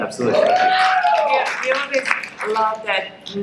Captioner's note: crowd cheering